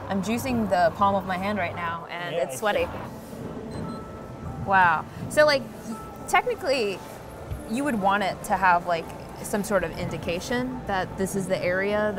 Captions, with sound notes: I'm juicing the palm of my hand right now, and it's sweaty. - Yeah, I see. (beeping) - Wow. So like, technically you would want it to have, like, some sort of indication that this is the area